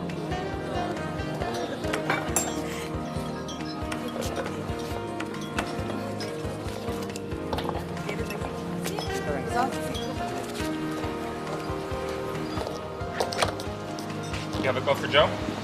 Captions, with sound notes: (jazz music plays) (laughter) (indistinct conversation) You have a call for Joe?